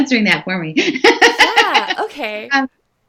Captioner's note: laughing